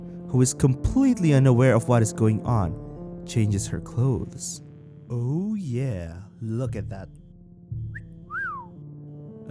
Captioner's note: whistle